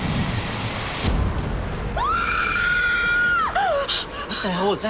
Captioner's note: screams